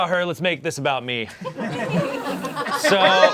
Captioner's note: audience laughing